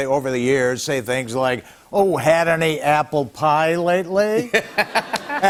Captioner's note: laughter